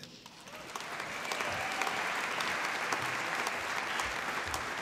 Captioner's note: applause